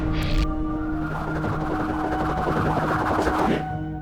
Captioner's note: whirring